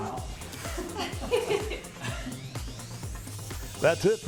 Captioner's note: interviewer laughing